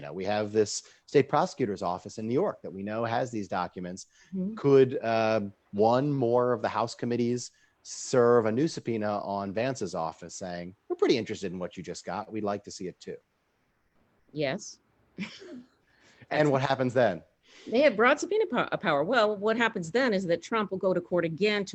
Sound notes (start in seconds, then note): 15.2 chuckling